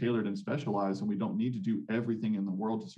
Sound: none

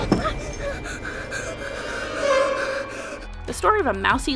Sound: child screams; breathing heavy

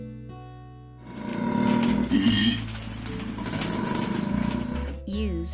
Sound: koala snoring sound

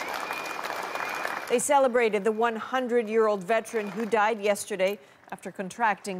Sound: applause

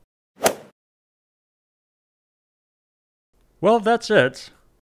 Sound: golf swing sound effect

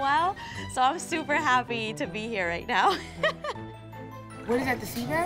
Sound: laughs

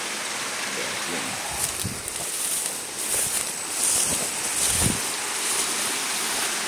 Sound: grass brushing pants

